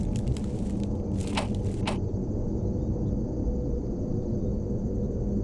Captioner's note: knocking on door